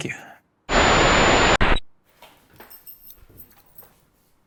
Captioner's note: screen sizzles